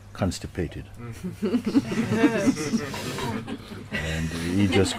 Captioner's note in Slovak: Smiech